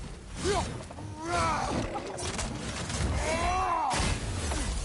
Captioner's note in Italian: gemito